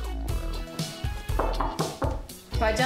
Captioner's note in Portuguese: som de batida na porta